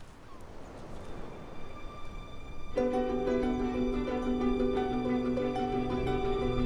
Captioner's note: light music; birds chirping